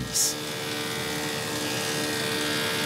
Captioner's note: whirring